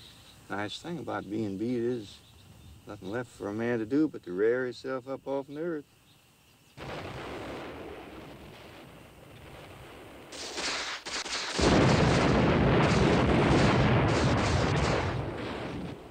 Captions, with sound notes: Nice thing about being beat is there's nothing left for a man to do but to rear hisself up off of the earth. (explosions in distance) (gunfire)